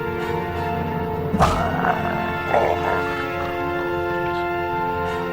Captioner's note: zombie groaning